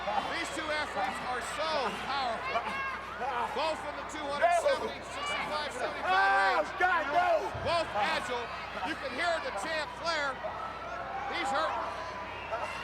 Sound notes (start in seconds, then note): 6.3 Ric yelling